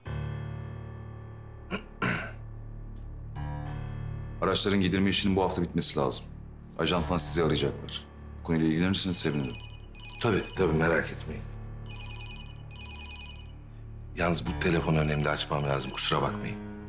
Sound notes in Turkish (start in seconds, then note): 11.8 Telefon zili